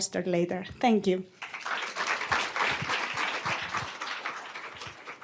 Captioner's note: applause